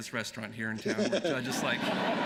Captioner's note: laughter